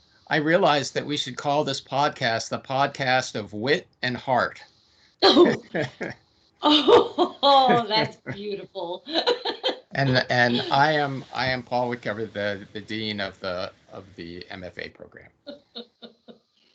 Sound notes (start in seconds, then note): 6.7 laughing; 15.4 laughing